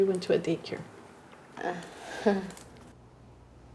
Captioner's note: chuckles